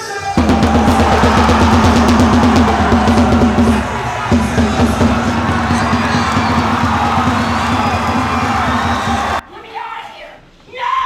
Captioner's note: drum banging and people cheering